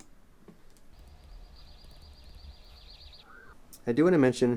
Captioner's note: birds chirping